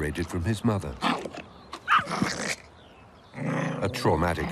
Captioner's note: growling